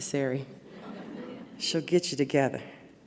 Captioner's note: audience laughs